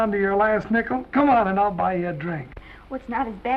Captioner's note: none